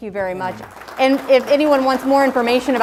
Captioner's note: crowd applauds